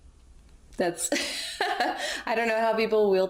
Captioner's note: laughs